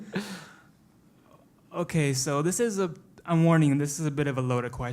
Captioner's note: laugh